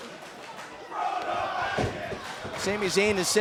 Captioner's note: fans chanting